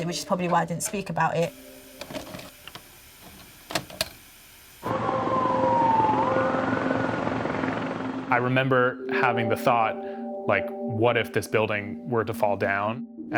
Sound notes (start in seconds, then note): 2.2 VHS player clicks; 4.8 sirens blaring; 4.9 helicopter blades whirring